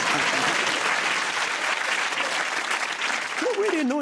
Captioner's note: applause